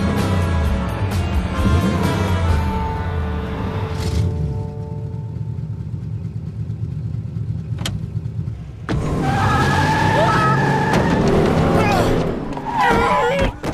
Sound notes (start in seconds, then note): 0.0 engine revs; 6.0 engine revs; 7.7 gear shift clicks; 8.8 tires squeal; 9.1 screams; 12.7 grunts